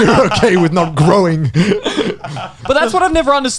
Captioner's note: laughs